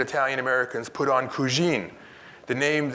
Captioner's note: speaks in Italian